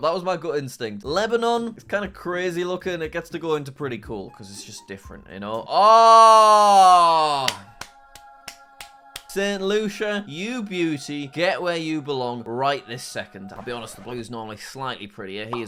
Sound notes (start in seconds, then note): 7.0 angelic music; 7.4 applauds